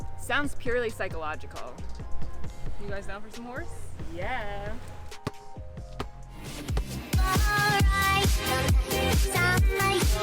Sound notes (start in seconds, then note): 4.4 basket ball thumping; 7.2 electronic music